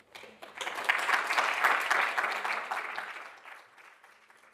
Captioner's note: audience applauding